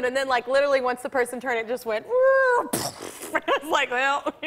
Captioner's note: mimics crash, explosion